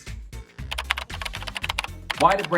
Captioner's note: keyboard clacking